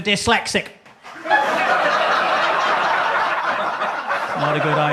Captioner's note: audience laughs